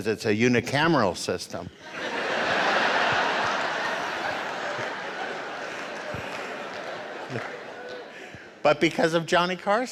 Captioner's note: audience laughter